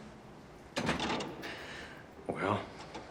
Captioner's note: door creaks